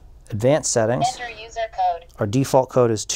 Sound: digital voice

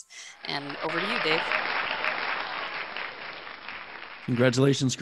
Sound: crowd cheering

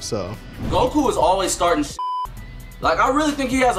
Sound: beeps

